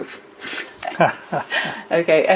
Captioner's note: laughs